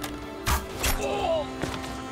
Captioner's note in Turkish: Ok sesi